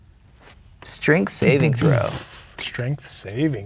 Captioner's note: imitates explosions